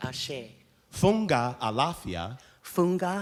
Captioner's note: speaking in foreign language